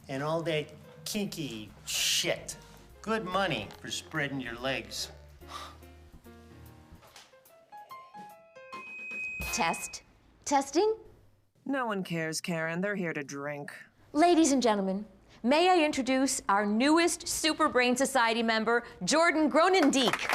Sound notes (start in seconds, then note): 5.5 Radovan scoffs; 9.3 microphone screeches